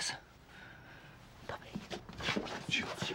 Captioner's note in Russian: Шепотом